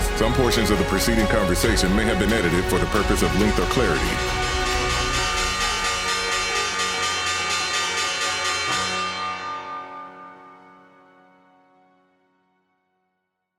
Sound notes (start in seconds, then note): 4.7 bell ringing